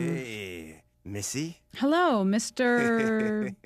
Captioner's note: sleazily